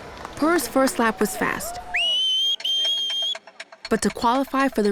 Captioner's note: whistling